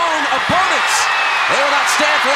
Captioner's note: audience cheering